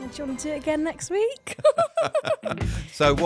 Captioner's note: laughing